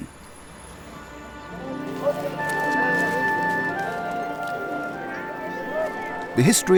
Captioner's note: bright music; people chattering